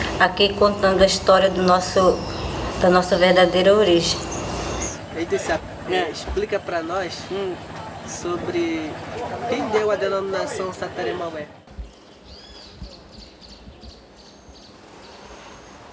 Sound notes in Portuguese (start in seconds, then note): 11.2 rumor de vozes no fundo; 11.7 pássaros cantando